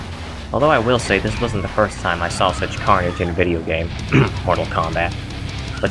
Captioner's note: cough